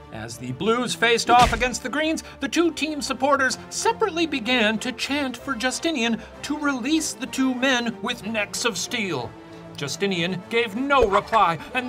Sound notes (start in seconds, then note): none